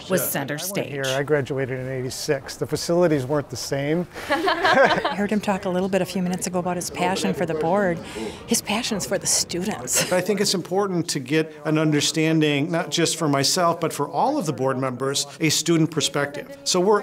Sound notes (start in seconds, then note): 4.2 laughing